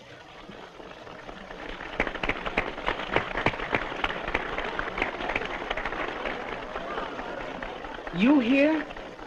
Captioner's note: applause